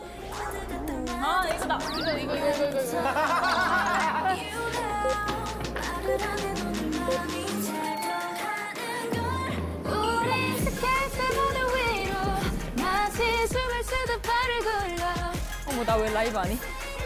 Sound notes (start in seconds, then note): 3.3 laughing